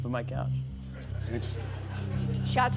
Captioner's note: laughter